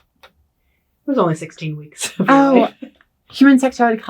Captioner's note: laughs